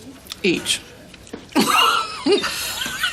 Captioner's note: Stanley laughs; laughs